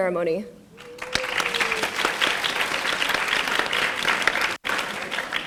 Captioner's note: audience applauding